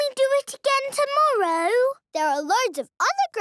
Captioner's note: none